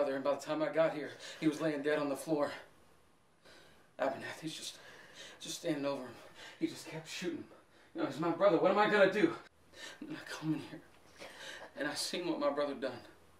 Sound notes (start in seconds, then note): none